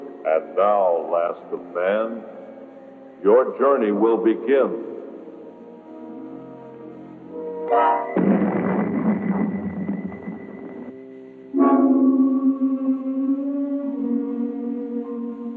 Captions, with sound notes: And now, last of man... your journey will begin. [rockets booming] [eerie music]